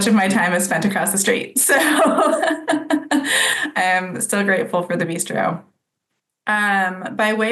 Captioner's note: laughs